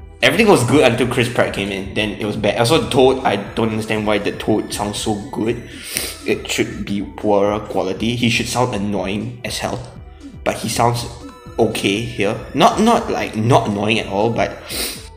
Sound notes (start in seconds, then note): 5.8 sniff; 14.6 sniff